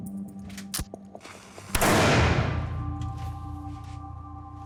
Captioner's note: gunshot